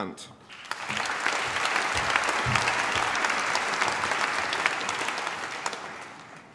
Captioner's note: applause